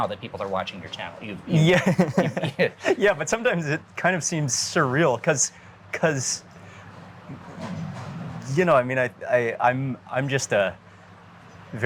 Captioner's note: laughing